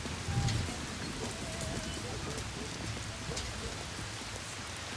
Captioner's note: dog barking